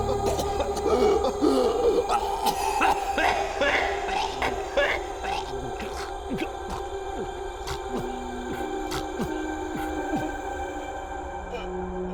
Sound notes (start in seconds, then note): 2.4 Danny coughs; 9.1 haunting music